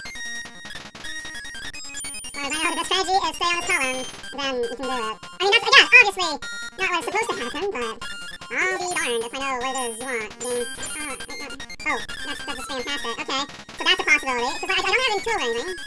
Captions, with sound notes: *Chipmunking starts* Well I guess the strategy is to just stay in this column, then you can do it. I guess, obviously not really what's supposed to happen but. I'll be darned if I know what it is you want game. *Struggling sounds* Oh, that's just fantastic. Okay. So that's a possibility. 'Cause I don't have an Item 2 or anything.